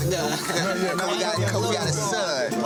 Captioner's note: people speaking indistinct